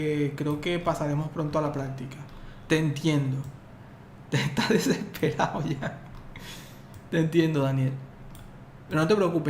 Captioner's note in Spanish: risas